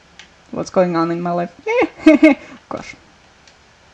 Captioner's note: nervous laughter